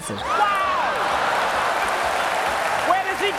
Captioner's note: laughter and applause